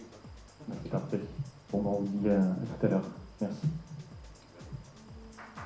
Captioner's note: applause